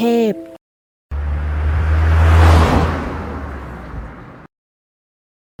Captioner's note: SOUND of Car